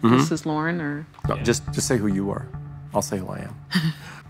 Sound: chuckles

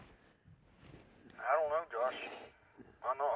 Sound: man On Radio

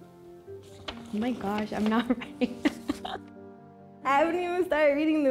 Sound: laughs

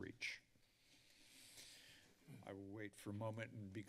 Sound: breathes deeply

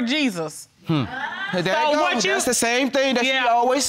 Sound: audience gasps

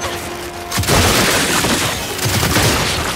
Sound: gunfire

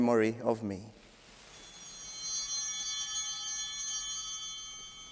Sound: bell ringing

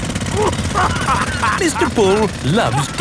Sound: laughing

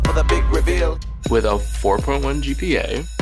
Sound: school bell rings

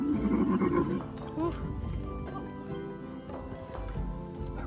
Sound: camel grunting

